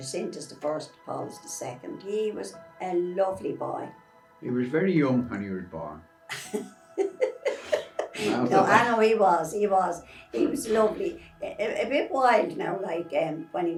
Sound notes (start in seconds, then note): 6.9 laughing